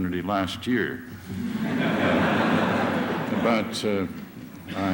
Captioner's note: laughter